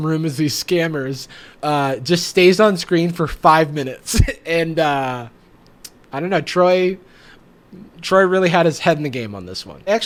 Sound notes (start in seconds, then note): 3.9 laughs